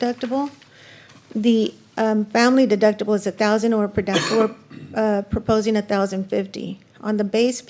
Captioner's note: clears throat